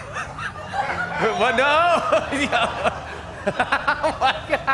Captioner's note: laughter